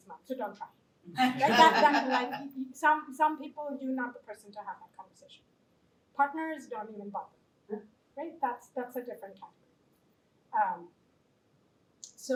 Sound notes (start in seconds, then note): 1.1 laughter